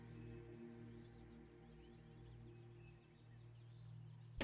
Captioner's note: birds chirping